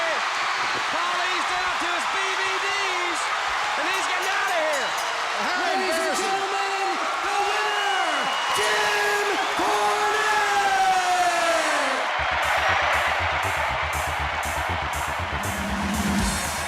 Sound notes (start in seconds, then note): 5.9 bell ringing; 14.7 crowd cheering